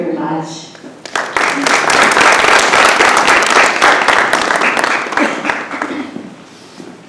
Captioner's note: audience applauds